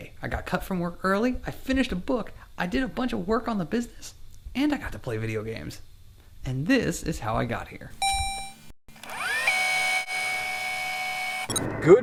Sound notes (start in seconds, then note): 8.0 robotic ding; 8.9 tape rewinding